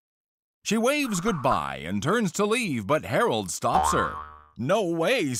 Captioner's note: boing